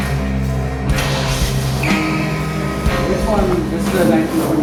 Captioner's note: car starts